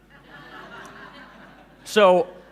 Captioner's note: laughing